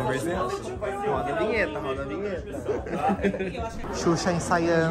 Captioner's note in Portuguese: risos